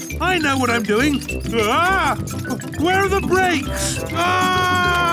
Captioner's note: scream